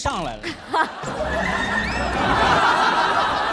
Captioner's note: hahahaha